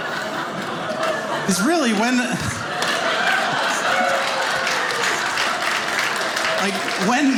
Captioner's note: audience laughing; audience applauding